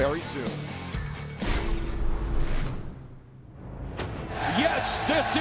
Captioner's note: crowd cheering